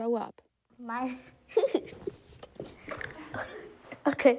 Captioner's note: laughs